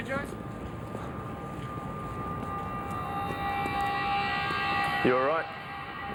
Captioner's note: faintly speaking